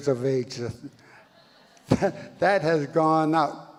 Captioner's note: audience laughs